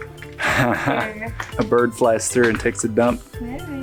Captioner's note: laughs